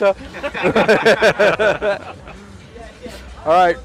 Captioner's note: all laughing